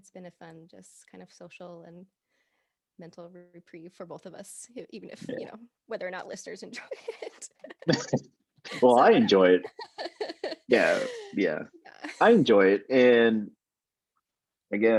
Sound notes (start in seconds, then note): 11.8 both laughing